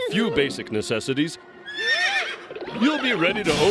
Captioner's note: whinnies